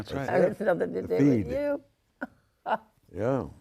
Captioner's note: laughs